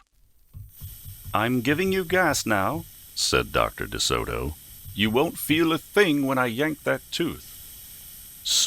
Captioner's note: sound of gas